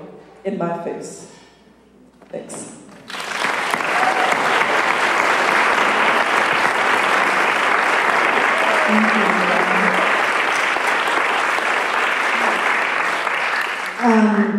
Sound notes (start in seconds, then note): 3.0 applause